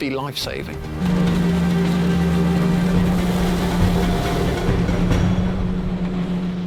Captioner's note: tense music; engine humming